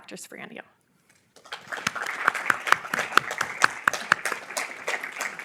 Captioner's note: applause